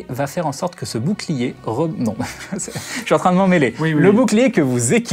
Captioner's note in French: rires